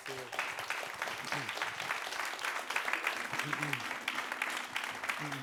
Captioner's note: audience claps